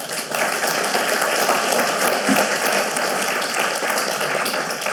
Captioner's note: audience applauding